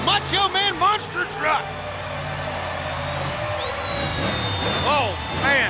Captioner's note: audience cheers